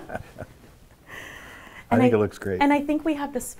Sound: laughter

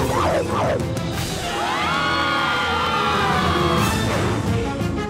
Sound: screaming

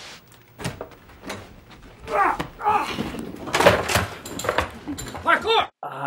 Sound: static noise; grunting

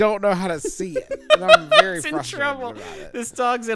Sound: laughs

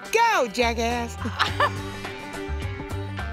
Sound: laughs

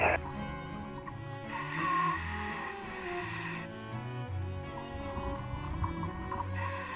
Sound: classical music playing; deep breathing

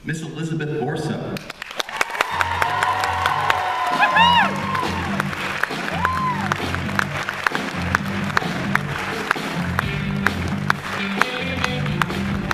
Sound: applause & music

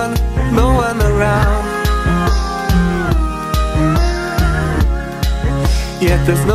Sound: awooo~

